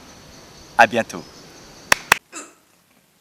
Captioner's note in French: clap clap